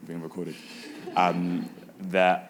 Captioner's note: audience laughing